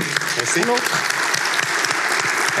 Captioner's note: applause